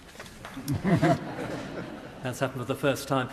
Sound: members laugh

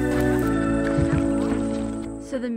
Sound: footsteps

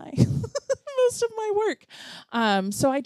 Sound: laughs

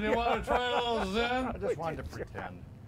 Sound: laughing

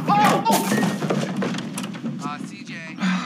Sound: clattering

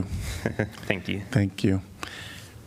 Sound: laughter

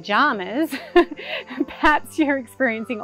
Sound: laughs

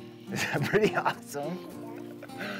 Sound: laughs

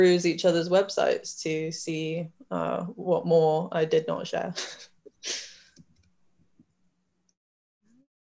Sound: laughs

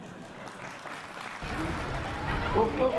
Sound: laughter and applause; foreign audio to clip

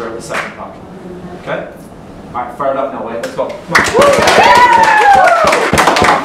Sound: clapping

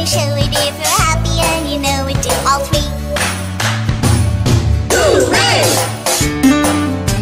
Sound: clap clap stomp stomp Hoo-Ray

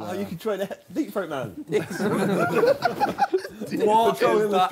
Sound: group chattering

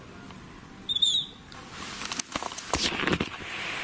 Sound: whistling

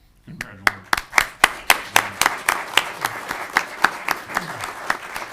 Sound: audience applauding

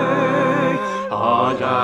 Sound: gasp

